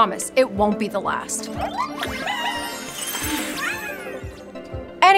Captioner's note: mysterious magical sound